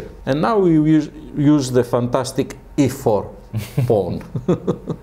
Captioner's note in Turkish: Gülüşmeler